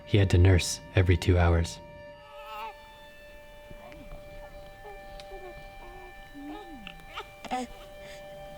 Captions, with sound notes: He had to nurse every two hours. [baby coos] [light music continues]